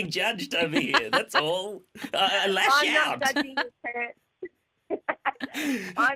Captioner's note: laughter